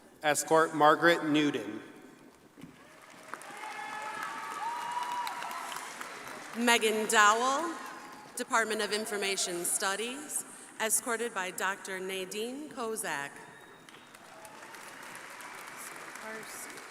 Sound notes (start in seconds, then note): 2.7 crowd applauding; 13.8 crowd applauding